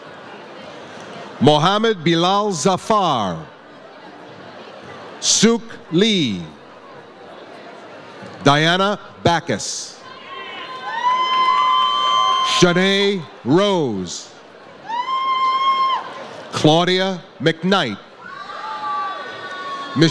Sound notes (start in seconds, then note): 10.1 audience cheers; 14.8 audience cheers; 18.2 audience cheers